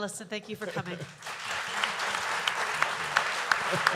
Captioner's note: applause